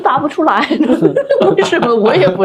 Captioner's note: laughter